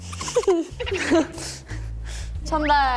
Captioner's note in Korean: ㅋㅋ